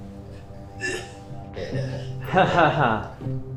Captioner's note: Kyle groaning